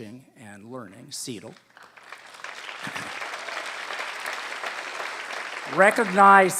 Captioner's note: applause